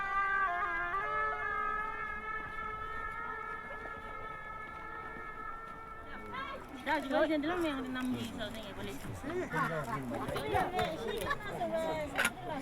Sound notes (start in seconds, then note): 7.2 speaking in Sherpa language